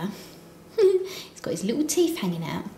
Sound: giggles

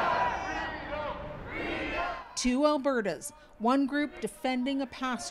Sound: chanting

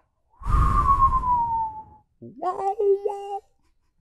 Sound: whistling

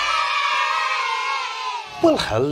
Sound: children cheering

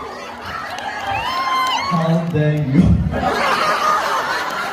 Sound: ปรบมือ

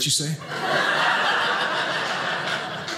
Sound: audience laughing

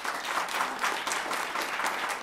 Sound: applause

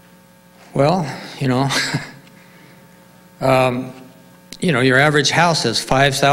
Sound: laughs

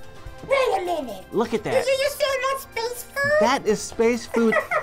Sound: laughs

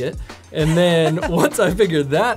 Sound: laughs

